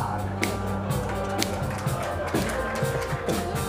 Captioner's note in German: Publikum lacht, lässige Musik